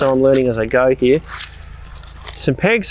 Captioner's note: metal clacking